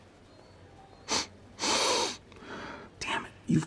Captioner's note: sniffs